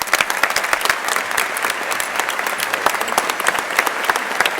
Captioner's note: crowd applauding